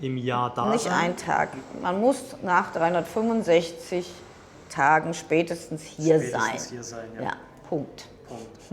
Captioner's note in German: räuspern